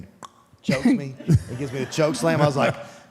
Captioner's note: Michelle and Mark chuckles